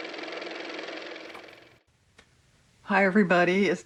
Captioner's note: car motor